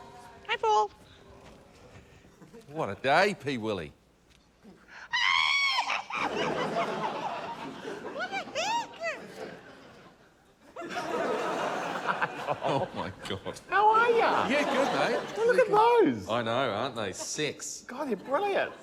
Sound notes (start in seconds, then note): 5.1 screams excitedly; 5.8 laughter